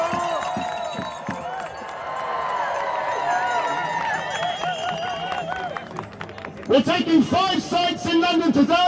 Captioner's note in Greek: Χειροκροτήματα